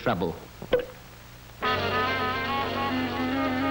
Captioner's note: popping